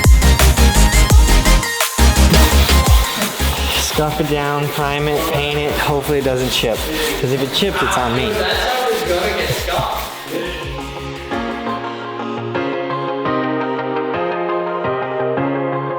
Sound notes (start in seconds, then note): 2.9 sandpaper rubbing; 11.1 upbeat music